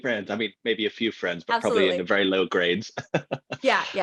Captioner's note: laughs; laughs